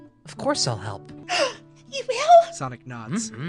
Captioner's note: gasp